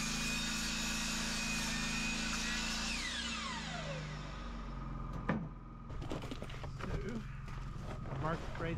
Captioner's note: drill whirring